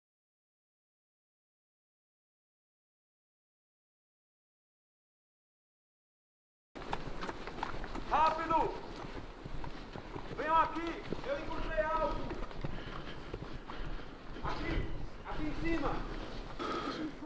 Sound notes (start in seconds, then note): 7.3 Paulo shouting from afar